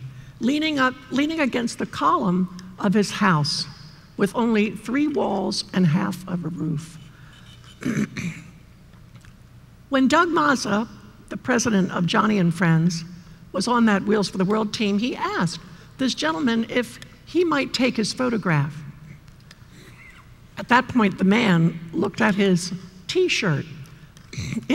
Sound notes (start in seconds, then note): 7.6 clears throat